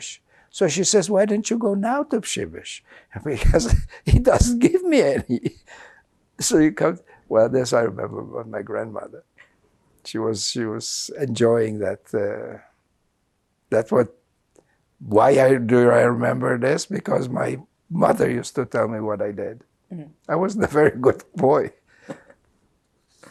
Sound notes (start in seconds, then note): 6.1 laughing